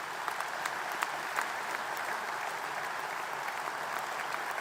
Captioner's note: applause